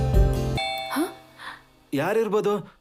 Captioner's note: door bell rings